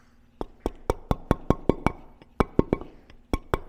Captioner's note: metal hammering